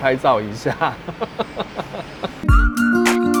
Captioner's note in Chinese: 開心的笑聲